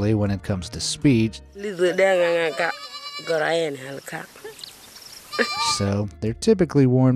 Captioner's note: tribeswoman speaking in foreign language